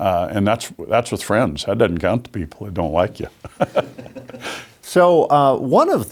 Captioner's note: chuckles